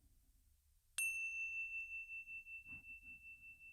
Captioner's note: bells chime